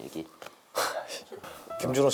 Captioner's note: sigh